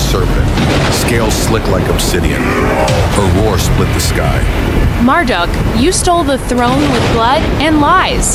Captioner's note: snarling